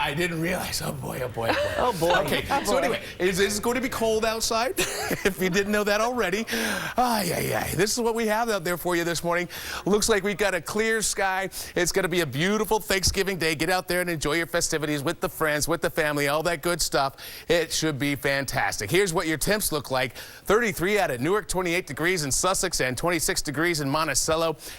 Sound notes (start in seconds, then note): 4.7 laughter